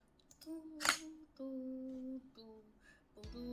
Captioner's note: humming